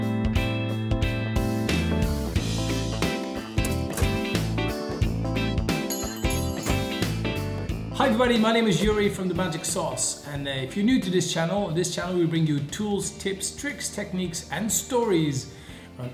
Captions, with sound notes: (metal clanks) Hi everybody, my name is Joeri from The Magic Sauce. And if you're new to this channel, on this channel we bring you tools, tips, tricks, techniques, and stories